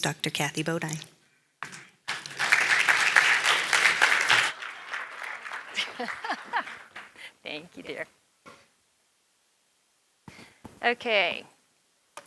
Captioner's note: applause